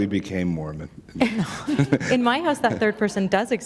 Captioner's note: chuckle